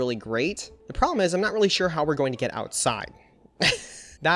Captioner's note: chuckles